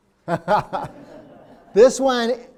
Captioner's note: audience laughing